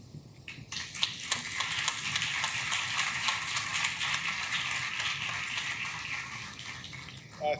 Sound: clapping

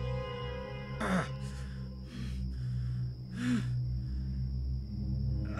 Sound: grunting, breathing heavily

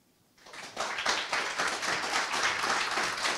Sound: applause

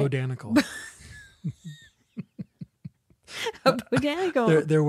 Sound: laughs

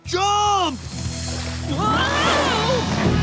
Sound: screaming

